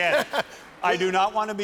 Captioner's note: laughter